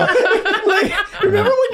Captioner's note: group laughing